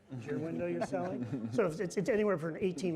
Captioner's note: audience laughing